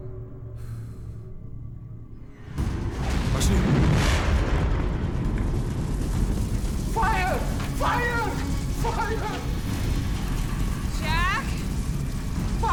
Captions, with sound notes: (dramatic music) (speaking a foreign language) - Fire, fire. Fire! - Jack.